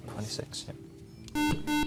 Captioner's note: beeping